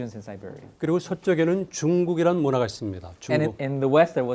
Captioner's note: speaking in Korean